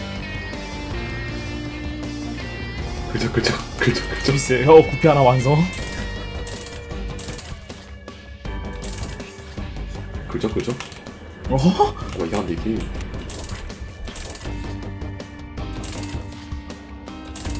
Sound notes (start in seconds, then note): 5.0 scratches; 11.9 scratches